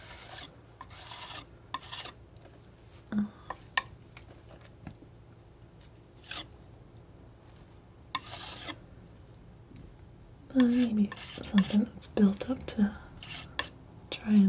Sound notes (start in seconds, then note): 1.6 scratching